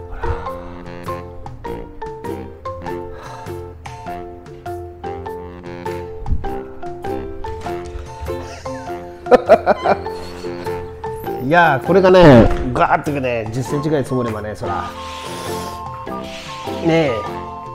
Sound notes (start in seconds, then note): 8.3 laughs